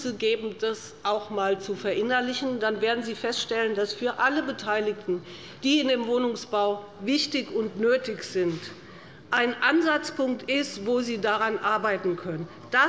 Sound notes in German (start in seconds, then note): none